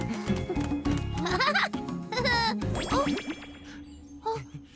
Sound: chuckles

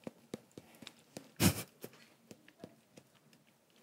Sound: chewing

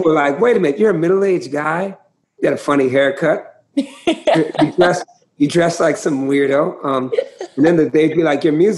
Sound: laughter

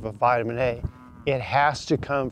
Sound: cows moo

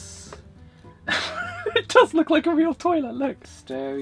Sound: laughs

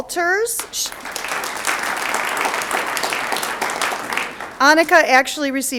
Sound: audience applauds

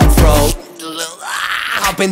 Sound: screaming

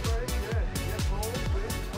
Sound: paparazzi chatter

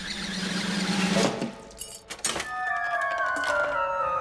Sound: string zipping; cup banging; whimsical music

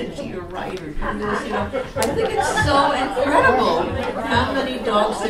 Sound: audiences discusses

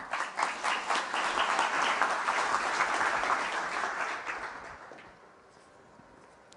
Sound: applause

